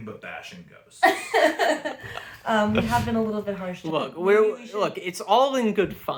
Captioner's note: laughs